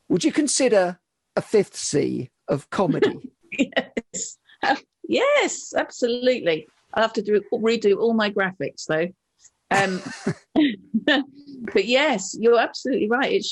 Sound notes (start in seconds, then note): 2.9 laughs; 9.7 laugh